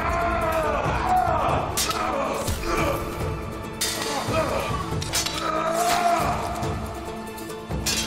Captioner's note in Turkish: Boğuşma sesleri; Kılıç sesleri